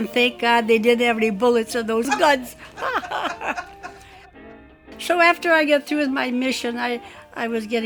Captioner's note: laughs